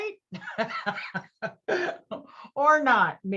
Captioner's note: laughs